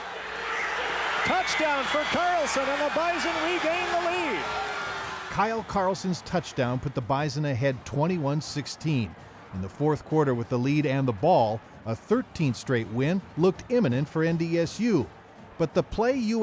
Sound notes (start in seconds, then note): 5.6 loud cheering